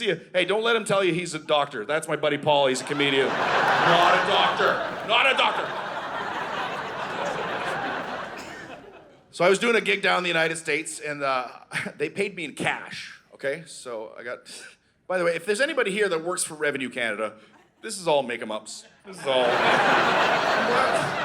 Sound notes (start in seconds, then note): 5.9 audience laughing; 19.1 audience laughing